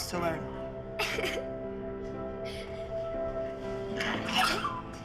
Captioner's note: crying